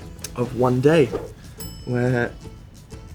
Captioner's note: slide swipe